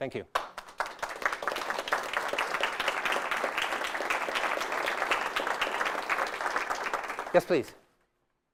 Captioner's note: audience applauses